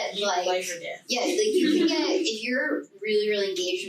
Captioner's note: group chattering